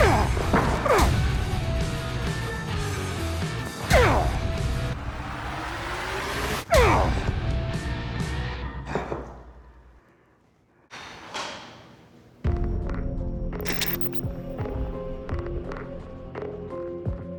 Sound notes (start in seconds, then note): 10.9 exhales deeply; 12.3 dramatic music playing